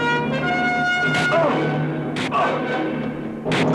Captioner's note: grunting